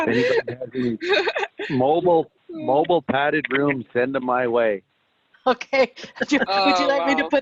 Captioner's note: laughter